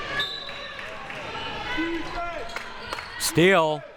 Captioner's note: audience chattering and yelling; whistle blowing